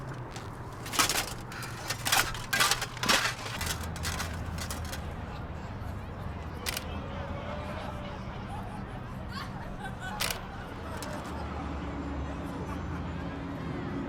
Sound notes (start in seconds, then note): 0.0 armor clanking; 6.6 camera shudder clicks; 6.6 people chattering